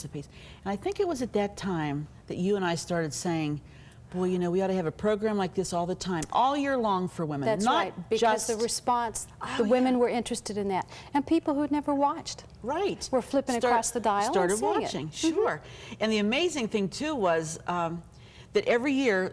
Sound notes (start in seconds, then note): none